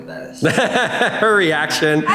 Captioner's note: laughing